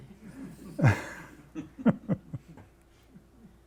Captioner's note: laughing